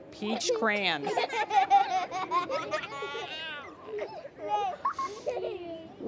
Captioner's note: laughter